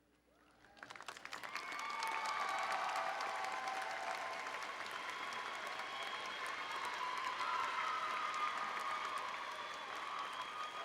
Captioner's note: applause and Cheering